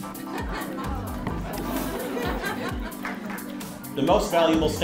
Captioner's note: audience laughing